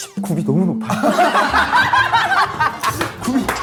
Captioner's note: burst out in laughter